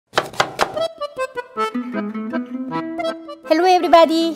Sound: chopping; upbeat music

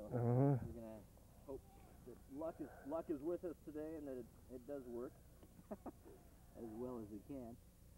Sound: laughs

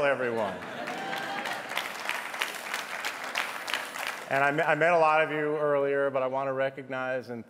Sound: applause

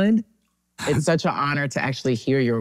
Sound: laughs

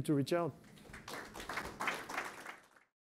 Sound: audience applauds

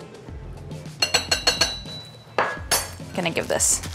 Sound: tapping

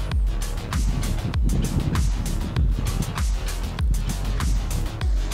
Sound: wind whooshing

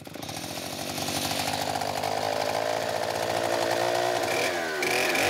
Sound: chainsaw buzzing

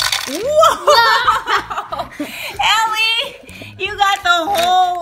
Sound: laughs; voiceover

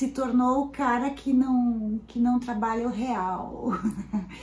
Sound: laughs

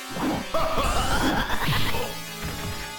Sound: Mystique laughs

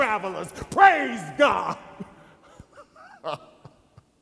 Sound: chuckles

